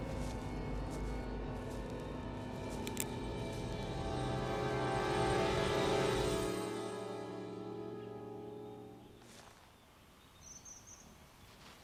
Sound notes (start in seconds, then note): 0.0 suspense music; 3.1 ratchet's gun clicks; 9.6 birds chirping